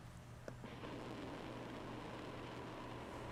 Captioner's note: rocket engines blasting